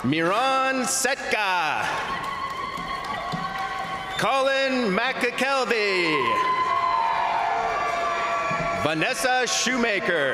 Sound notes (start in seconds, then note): 1.6 crowd applauding; 1.6 crowd cheering; 6.0 crowd applauding; 6.0 crowd cheering